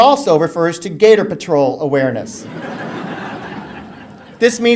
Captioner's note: audience laughter